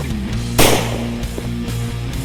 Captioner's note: gunshot